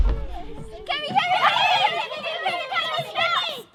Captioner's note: Journalists calling "Kemi"